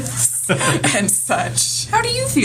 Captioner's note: laughs